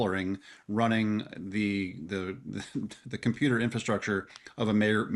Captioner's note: chuckles